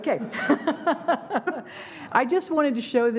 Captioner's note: laughing